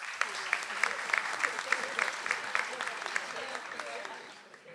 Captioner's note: audience applauds